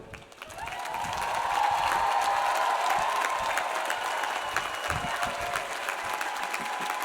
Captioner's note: audience applauds; audience cheers